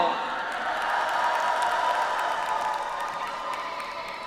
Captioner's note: audience applauds